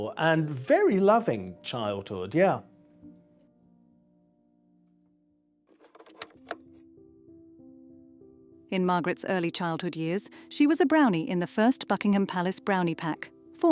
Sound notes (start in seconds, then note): 5.8 slide clunking; 6.7 gentle thoughtful music